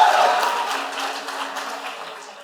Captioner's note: applause